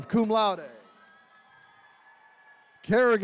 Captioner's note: attendees cheering